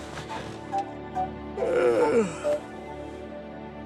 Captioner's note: yawn